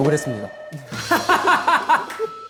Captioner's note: laughing